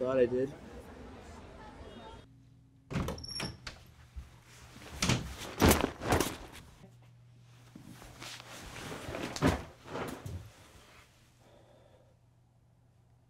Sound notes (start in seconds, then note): 5.3 bag crashing